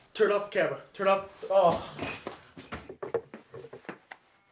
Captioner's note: Brett groans